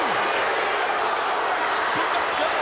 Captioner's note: crowd booing